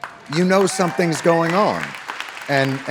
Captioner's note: audience cheering